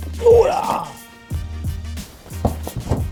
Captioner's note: groans